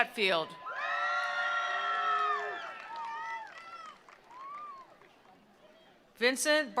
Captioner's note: attendees cheering; attendees applauding